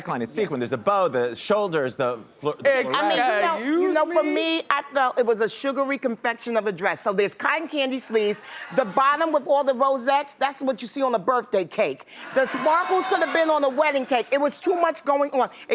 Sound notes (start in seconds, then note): 12.2 audience laughs